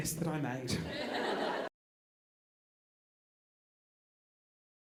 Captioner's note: audience laughing